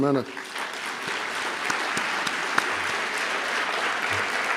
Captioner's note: applause